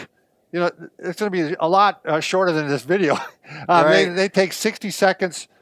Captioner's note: laughing